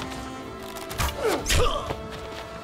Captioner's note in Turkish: Ok sesi